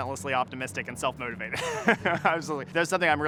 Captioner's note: laughs